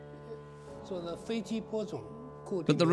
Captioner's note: speaking Chinese